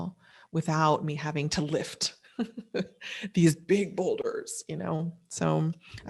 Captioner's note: laughs